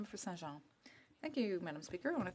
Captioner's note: speaking french